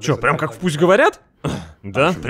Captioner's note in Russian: вздох